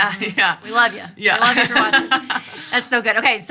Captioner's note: laughing